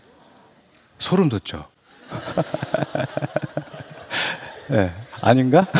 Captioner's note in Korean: 웃음